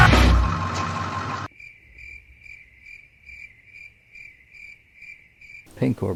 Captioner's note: crickets